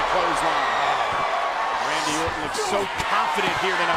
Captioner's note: applause